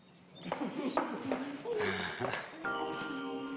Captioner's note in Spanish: Risas